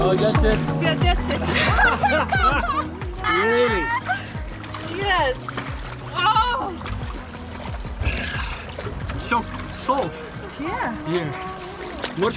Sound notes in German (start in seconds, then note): 1.3 beide lachen; 6.3 stöhnt